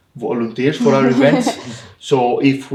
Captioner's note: irish laughing